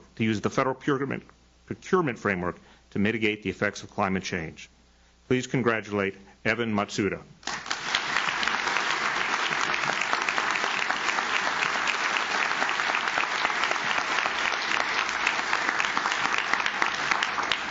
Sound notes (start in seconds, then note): 7.7 audience claps